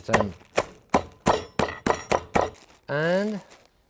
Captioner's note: mallet tapping